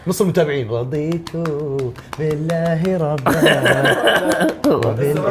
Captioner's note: laughs